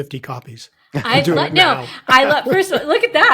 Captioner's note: chuckling